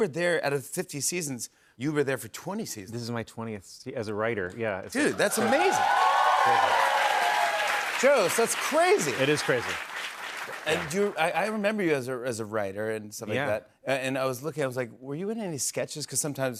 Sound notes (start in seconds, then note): 6.8 cheers and applause